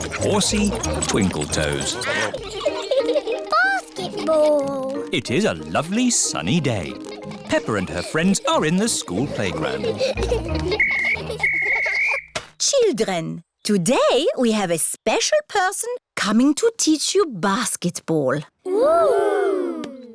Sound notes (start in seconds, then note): 2.1 duck quacking; 2.4 all giggling; 10.7 blows whistle